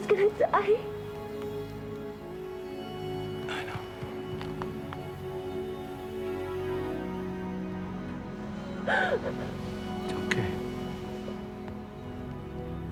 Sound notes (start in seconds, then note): 8.6 sobbing